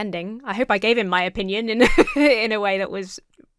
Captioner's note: laughs